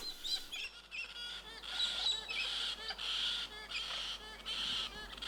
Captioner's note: birds squawking